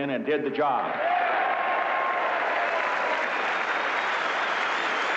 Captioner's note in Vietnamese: Tiếng reo hò, vỗ tay